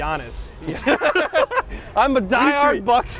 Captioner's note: laughs